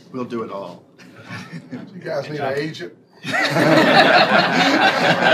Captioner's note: laughter